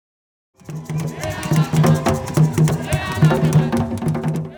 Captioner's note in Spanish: Tamborileo